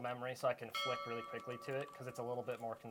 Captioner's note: bell ringing